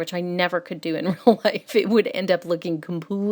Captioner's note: laughs